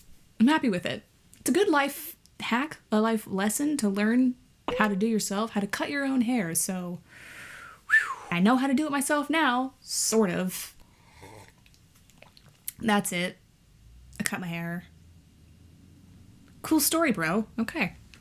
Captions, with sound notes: I'm happy with it. It's a good life hack? A life lesson? To learn how to do it yourself. How to cut your own hair. So... I know how to do it myself now. Sort of. (sips water) That's it. I cut my hair. Cool story, bro. Okay.